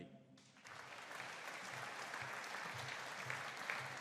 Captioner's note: audience applauding